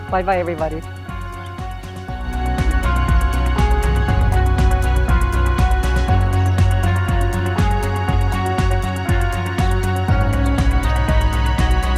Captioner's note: birds Chirping